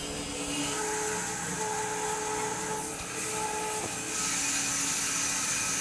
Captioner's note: electric saw screeching